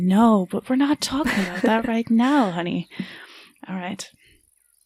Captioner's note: chuckles